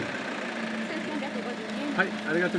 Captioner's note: speaking Japanese